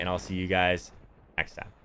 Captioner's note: lightning strike